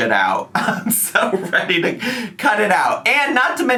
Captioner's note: laughs